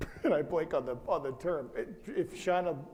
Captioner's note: laughs